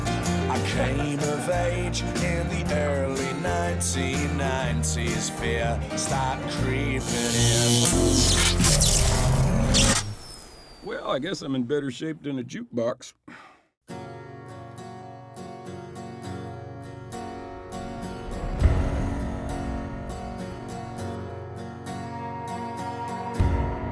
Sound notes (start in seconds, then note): 6.8 buzzing, short circuiting